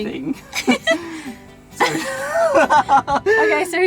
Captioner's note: laughing